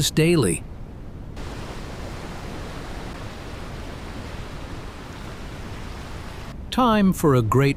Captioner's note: relaxing beach sounds